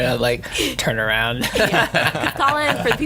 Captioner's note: laughing